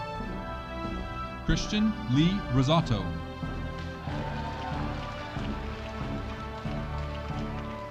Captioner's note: audience applauding